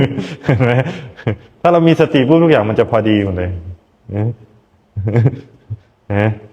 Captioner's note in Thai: เสียงหัวเราะ